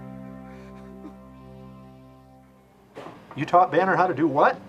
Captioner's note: Curtis crying